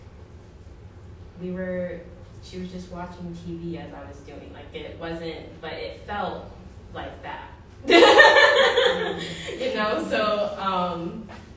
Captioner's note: laughter